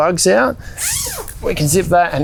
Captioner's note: zip unzipping